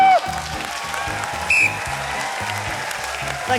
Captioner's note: cheering, applause; tom blows whistle